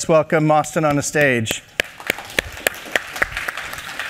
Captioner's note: applause